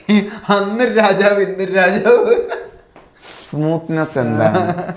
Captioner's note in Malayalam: ചീറ്റുന്നു; പൊട്ടിച്ചിരി